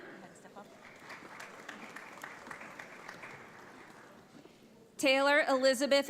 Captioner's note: audience applauds